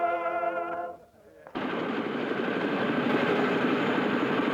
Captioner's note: helicopter engine humming